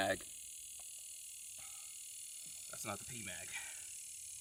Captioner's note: distant rattling